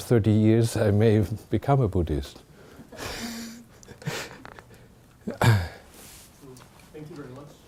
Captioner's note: chuckling